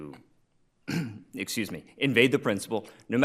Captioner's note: throat clearing